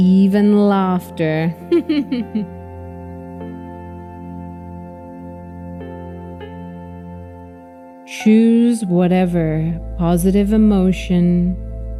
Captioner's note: chuckle and laugh a little